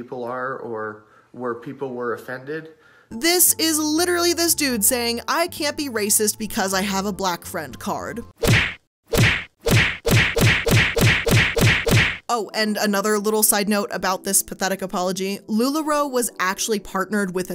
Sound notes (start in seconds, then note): 9.1 punches thwacking